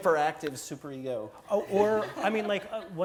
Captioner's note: laugh